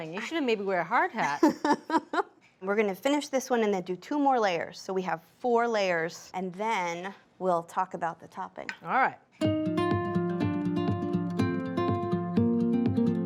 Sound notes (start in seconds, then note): 1.7 laughs; 9.4 gentle music begins